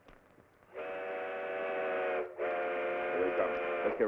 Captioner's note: train honking